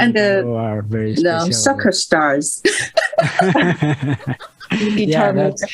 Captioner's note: risas